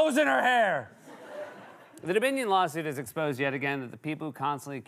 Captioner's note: laughter